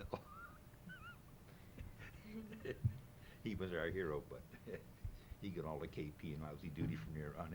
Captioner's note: laughter